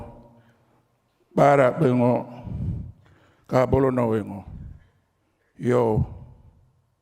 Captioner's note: continues to speak native language